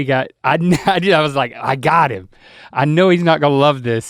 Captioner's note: Link chuckles